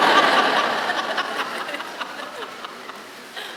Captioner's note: laughing